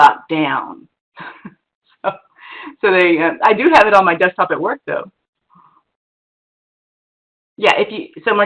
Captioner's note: laughs